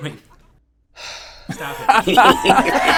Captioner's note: sighs; guy laughs; laughter intensifies